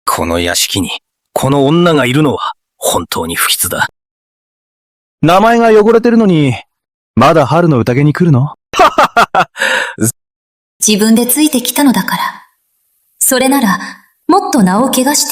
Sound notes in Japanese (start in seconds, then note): 8.8 笑い